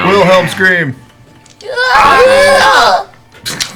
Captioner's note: half-hearted Wilhelm scream